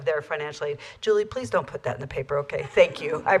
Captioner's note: laughter